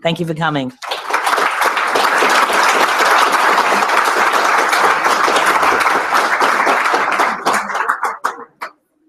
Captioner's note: applause